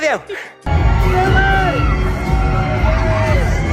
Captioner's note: fans yelling